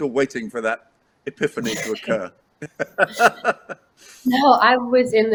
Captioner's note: laughs